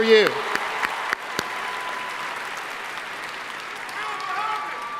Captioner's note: audience applauding; audience member shouting